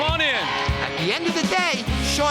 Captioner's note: cheering